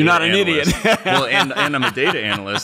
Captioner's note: laughs